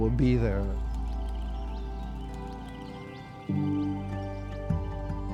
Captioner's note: birds chirping